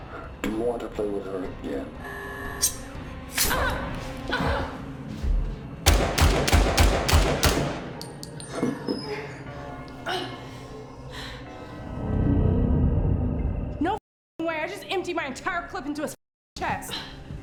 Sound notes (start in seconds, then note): 3.3 knife flicks; 4.3 Claire groans; 5.8 gunshots banging; 8.9 Dr. Byler chuckles; 10.0 Claire groans; 12.2 ominous music